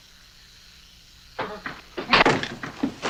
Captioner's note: crash